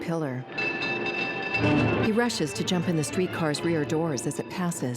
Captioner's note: trolley bell ringing